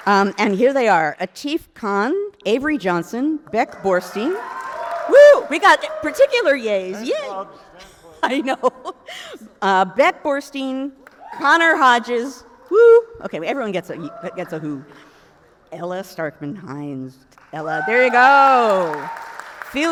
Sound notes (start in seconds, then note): 3.6 audience cheers; 12.6 someone woos; 17.4 audience applauds